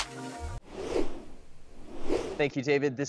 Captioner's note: logo whooshing